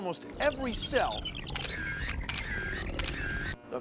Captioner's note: camera shutters clicking